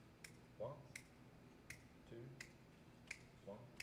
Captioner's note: snaps fingers